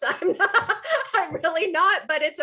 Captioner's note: laughing